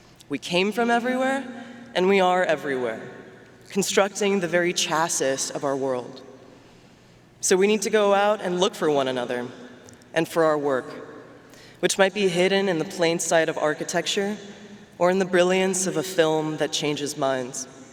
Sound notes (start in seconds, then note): none